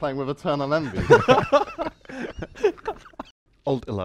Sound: laughter

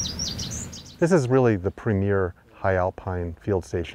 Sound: birds chirping

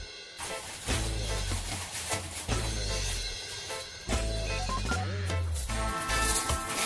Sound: reggae music; bag rustling; ice dropping into machine

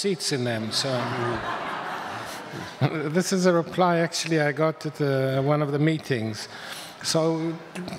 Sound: audience laughs

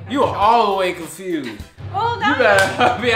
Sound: laughs

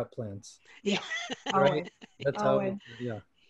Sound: laughter

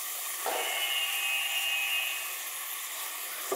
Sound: buzzing

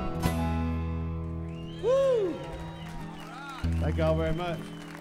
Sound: crowd whistles

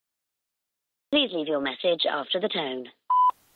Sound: beep

